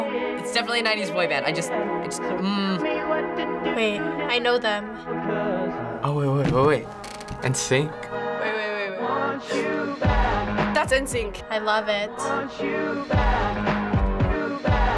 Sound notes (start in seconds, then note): 9.9 gasps